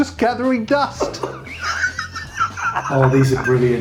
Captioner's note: laughing